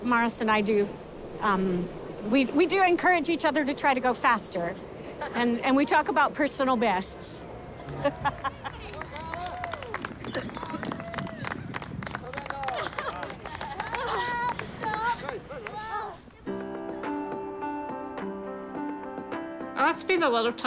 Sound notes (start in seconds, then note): 10.2 laughs; 13.1 applause; 18.4 upbeat piano music